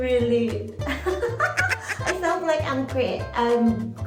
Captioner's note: awkward laugh